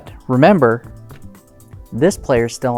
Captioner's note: cards tapping